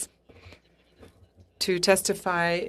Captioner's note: speaking French